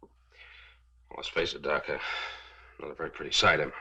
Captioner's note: sighs